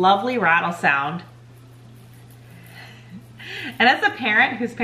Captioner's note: soft rattling